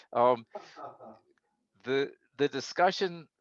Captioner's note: chuckling